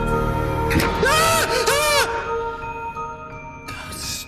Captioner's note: yelling; ghostly Voice